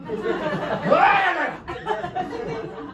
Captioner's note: angry yelling >